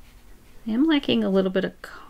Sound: none

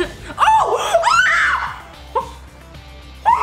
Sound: yells

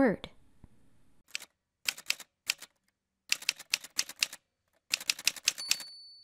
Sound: typewriter Sounds

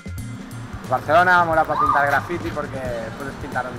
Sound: speaking Spanish

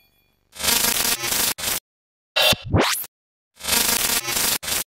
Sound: buzzing sound

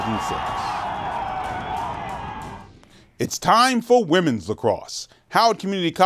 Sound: cheers

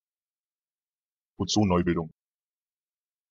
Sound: fast Pronunciation

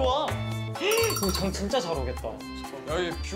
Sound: chattering

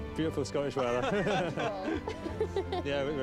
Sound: laughing

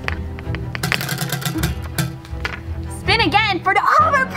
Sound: wheel clanks around metal axle

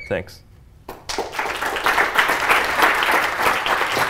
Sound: applause

